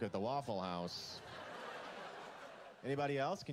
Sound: laughter

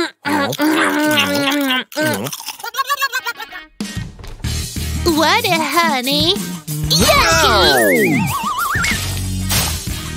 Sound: sounds of eating, ill-mannered

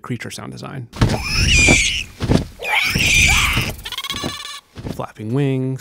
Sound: sounds of wings movement

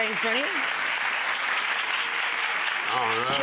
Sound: audience clapping

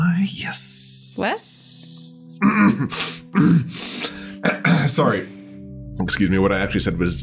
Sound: cough cough

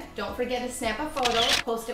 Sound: camera shutter clicks

